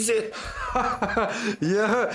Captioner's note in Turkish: Gülme sesi